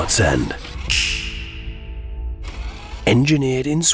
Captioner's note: finger snaps